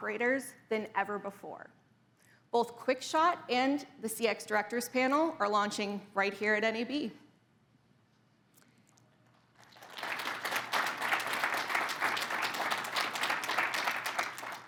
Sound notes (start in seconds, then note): 9.5 crowd applauds